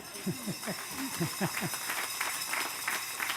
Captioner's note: laughter; applause